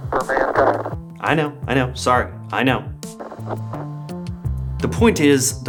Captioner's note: Static